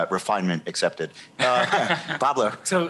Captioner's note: laughter